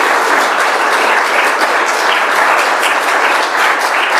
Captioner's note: applause